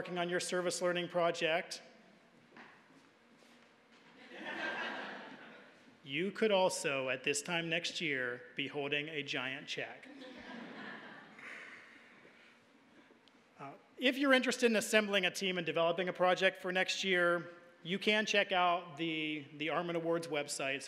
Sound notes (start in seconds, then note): 4.2 audience laughing; 10.1 audience laughing